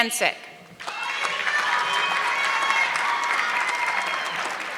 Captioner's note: audience clapping